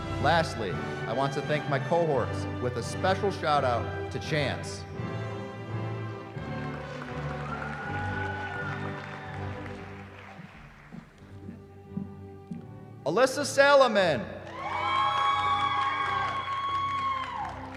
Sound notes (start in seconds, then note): 6.4 applause; 14.4 cheering